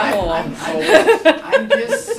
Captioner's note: laughter